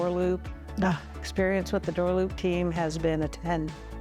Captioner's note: sighs